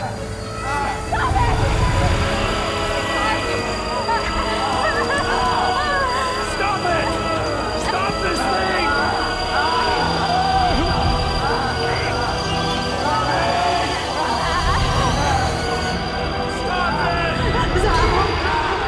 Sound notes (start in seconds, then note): 3.0 high pitched sound; 3.0 screaming